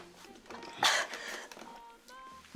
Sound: cough

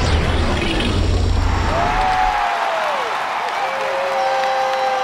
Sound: crowd cheering

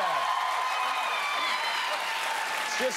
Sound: cheers and applause

